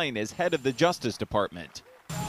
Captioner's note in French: applause